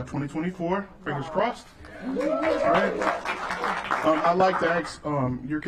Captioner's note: applause